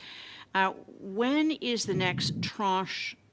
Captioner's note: speaking French